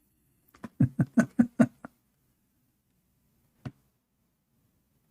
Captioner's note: Ketawa